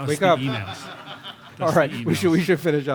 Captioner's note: laughter